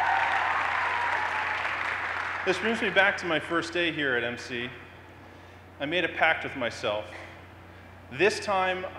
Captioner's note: cheers and applause